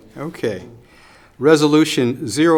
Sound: laughing

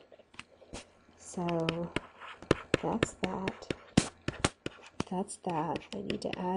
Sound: scribbling

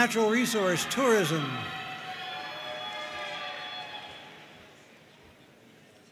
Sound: audience cheering and applauding

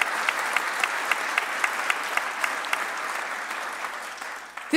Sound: applause

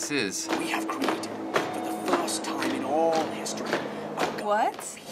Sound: voice-over

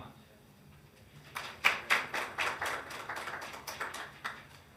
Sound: hands clapping

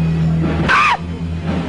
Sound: kurt's short scream

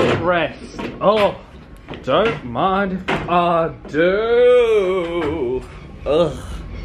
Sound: groans

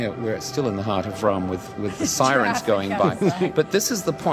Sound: laughs

